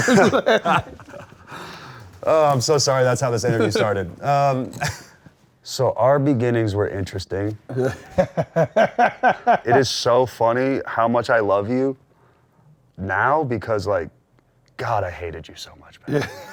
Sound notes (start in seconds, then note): 0.0 both laughing; 4.7 laughs; 7.7 laughs